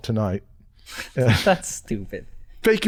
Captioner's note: chuckles